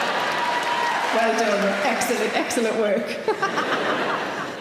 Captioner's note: audience cheers; laughs